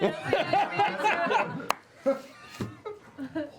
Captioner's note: laughter